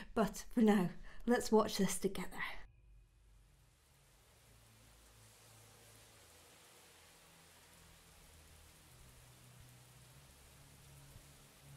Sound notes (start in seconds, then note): 3.8 rain pattering